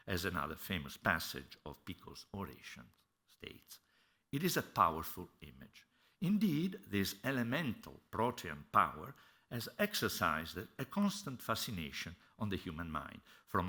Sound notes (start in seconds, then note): none